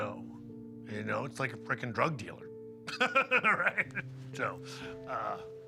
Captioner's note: laughs